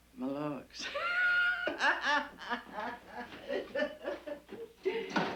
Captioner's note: Mary Tom laughing